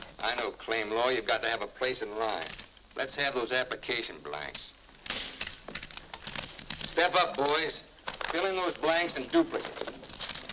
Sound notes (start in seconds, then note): none